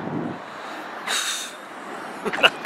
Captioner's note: sigh